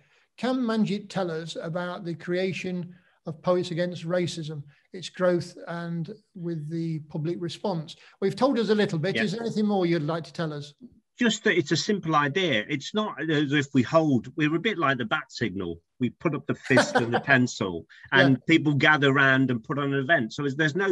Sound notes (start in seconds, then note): 16.5 offscreen: laughs